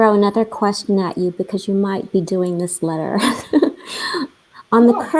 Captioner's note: laughing